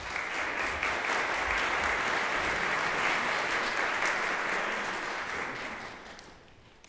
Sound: applause

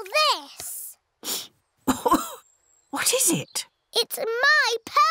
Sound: sniffs and coughs

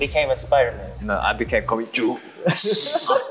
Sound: speaking Korean

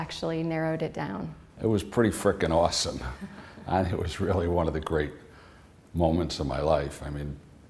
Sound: chuckle

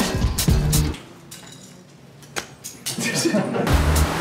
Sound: glass clinks; crew laughs; funk music continues

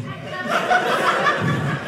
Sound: audience laughing

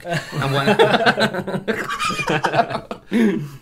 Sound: nervous Laughter

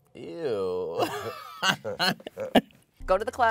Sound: both laughing

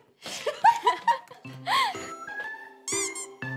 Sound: giggle

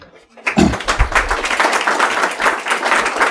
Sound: applause

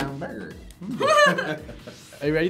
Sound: laughing

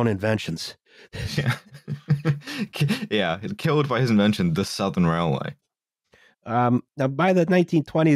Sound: laughs

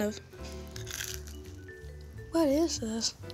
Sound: chewing the puff star

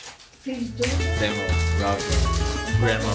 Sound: magic crackle

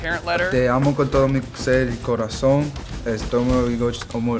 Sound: speaking in Spanish

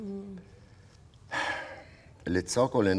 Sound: sighs

